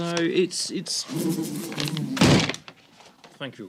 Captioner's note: buzzing